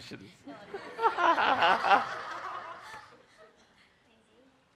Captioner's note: laughing